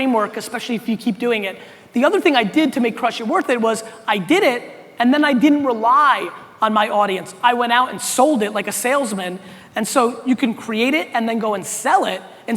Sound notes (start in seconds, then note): none